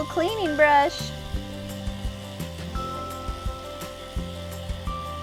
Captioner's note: brushing